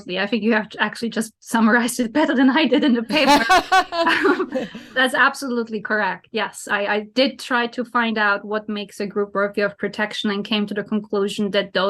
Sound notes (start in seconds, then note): 3.1 both laugh